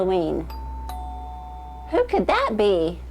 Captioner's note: doorbell